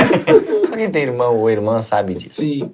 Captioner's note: risos